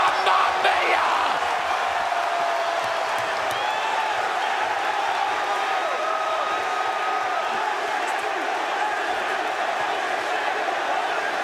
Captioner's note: crowd cheering